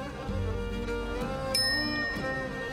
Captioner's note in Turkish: Mesaj bildirim sesi